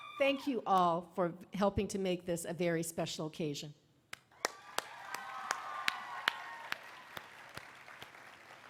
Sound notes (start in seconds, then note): 5.7 applause